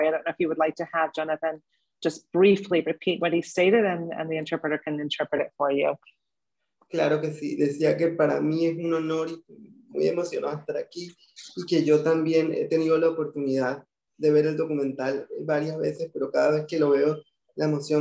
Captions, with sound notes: I don't know if you would like to have Jonathan just briefly repeat what he stated, and the interpreter can interpret it for you. (speaking in foreign language)